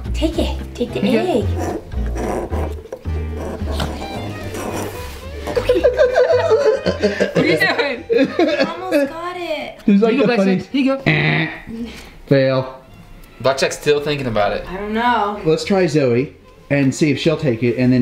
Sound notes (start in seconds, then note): 5.3 group laughs; 11.8 mimics buzzer